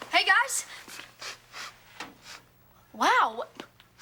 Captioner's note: Ethan sniffing; sniffing